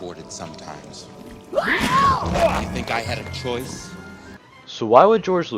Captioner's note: scream